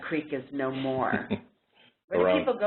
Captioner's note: laugh